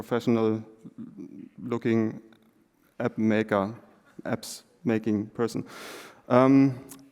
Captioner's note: German spoken